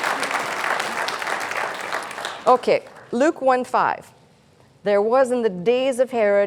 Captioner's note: applause